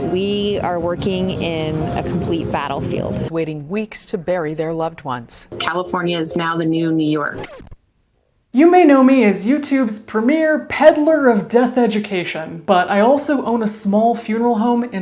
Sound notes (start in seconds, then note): 6.9 record scratching